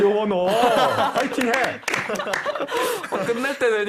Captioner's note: tepuk